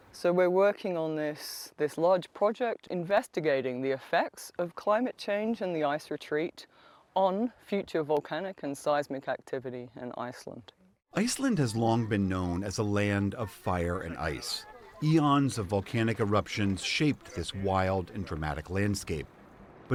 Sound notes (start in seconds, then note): 11.9 voice-over